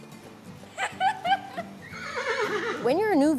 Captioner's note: laughter